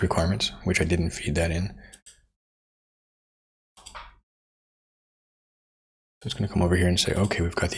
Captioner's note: silence